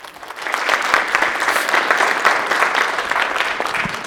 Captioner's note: audience applauding